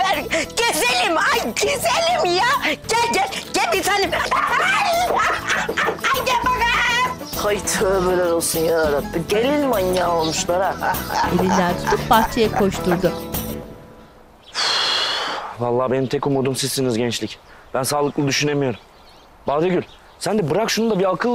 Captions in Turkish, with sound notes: Gezelim ay güzelim ya! Gel gel, gel bir tanem. (Gülme sesi) Gel bakayım. Ay tövbeler olsun ya Rabbi, gelin manyağı olmuşlar ya. (Gülme sesi) Uf valla benim tek umudum sizsiniz gençlik. Ben sağlıklı düşünemiyorum. Badegül, sen de bırak şunu da bir akıl ver ya...